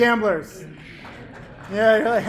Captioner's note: solitary clapping